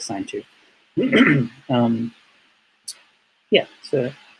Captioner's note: clears throat